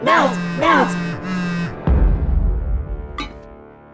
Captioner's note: MePhone vibrates in protest